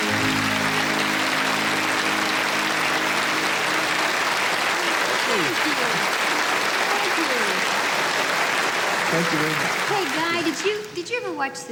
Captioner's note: applause